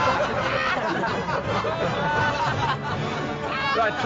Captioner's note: laughing